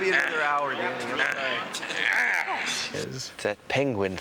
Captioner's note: grunting